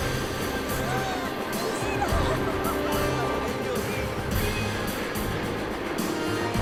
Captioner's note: couple speaking in foreign language